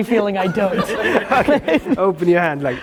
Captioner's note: laughs